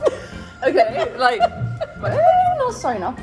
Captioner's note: laughs